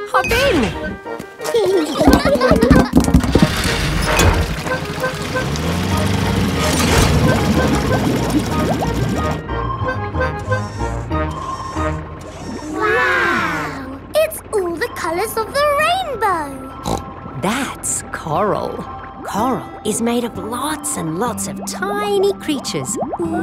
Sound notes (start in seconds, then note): 1.4 children giggling; 16.8 snorts